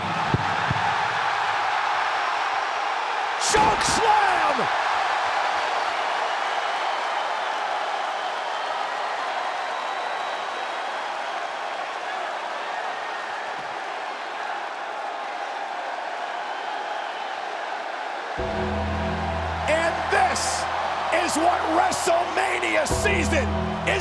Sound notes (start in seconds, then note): 0.1 audience cheers; 5.8 audience applauds and cheers; 18.4 ominous music; 19.6 audience cheers